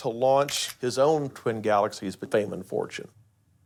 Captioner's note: camera shutter clicks